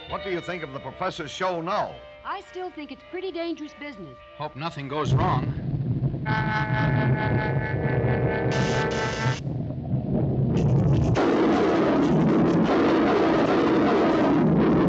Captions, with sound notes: - What do you think of the professor's show now? - I still think it's pretty dangerous business. - Hope nothing goes wrong. (explosion booms) (electricity zaps) (ball roars)